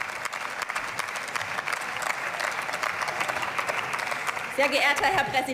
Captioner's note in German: Beifall